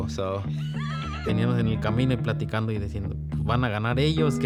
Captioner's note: laughs